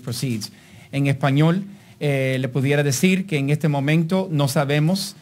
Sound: speaking in Spanish

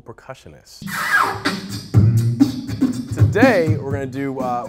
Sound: beatboxing

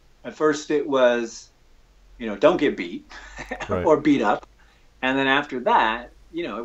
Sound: chuckles

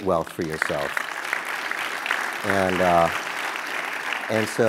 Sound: applause

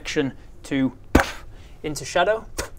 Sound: pfff

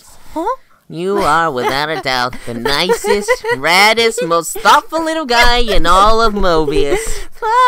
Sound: giggling

